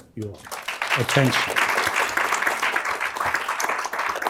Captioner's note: applause